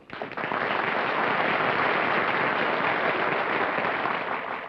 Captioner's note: applause